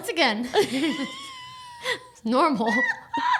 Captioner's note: laughing